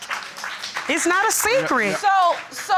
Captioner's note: audience applauding